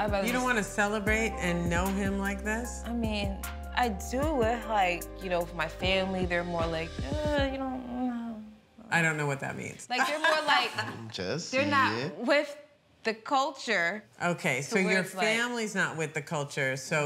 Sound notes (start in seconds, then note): 8.1 mumbles